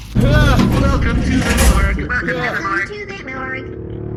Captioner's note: Derf yells inside the mortuary freezer